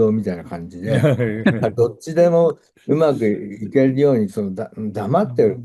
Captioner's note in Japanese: 笑い